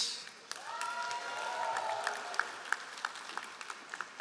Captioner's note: all applauding